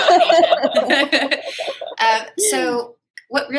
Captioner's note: laughter